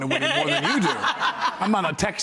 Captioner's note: audience laughs